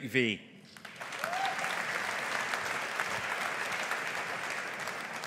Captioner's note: audience applauding